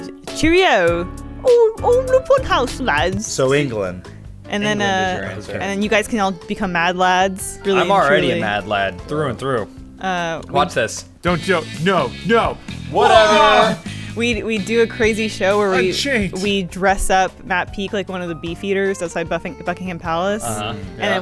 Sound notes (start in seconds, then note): 0.3 British accent; 12.8 all exaggeratedly yell in disbelief